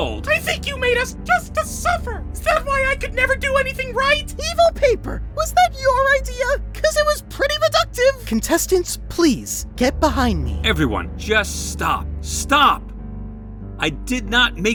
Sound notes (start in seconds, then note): none